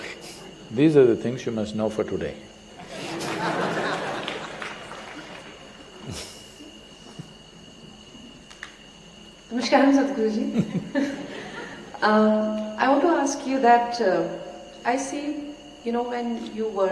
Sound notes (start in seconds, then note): 2.8 laughter